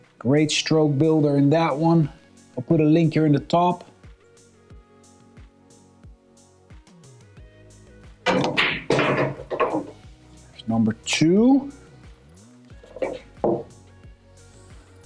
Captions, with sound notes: Great stroke builder in that one. I'll put a link here in the top. (lively music) (balls clanging) There's number two.